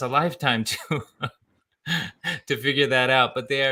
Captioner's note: laughs; laughs